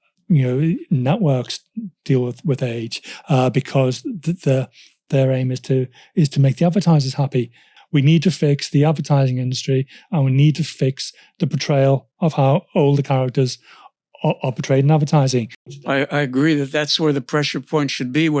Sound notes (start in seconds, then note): none